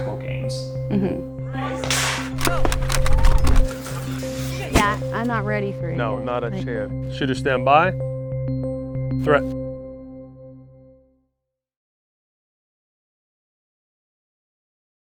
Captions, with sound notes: (gentle music) (footsteps landing) Shooter stand by. (gentle music) Threat.